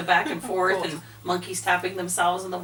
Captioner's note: chuckles